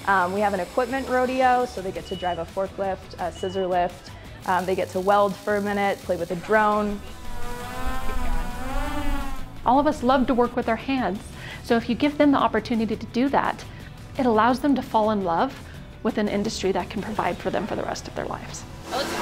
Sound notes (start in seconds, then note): 7.3 drone buzzing